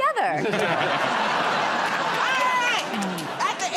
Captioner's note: laughter